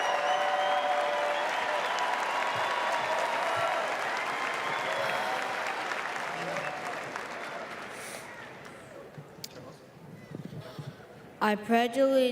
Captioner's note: applause